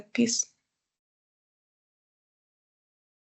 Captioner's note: silence